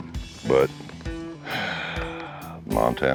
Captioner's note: exhales